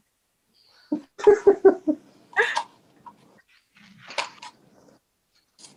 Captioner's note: chuckling